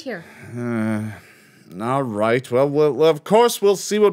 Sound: grumbles

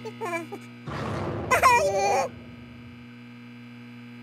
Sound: scream

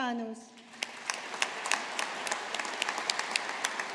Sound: audience applauding

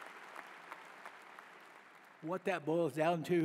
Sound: applause

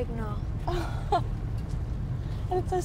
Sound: laughs

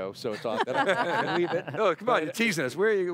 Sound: group laughter

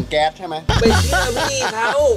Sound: laughs

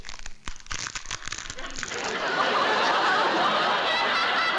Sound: crackling

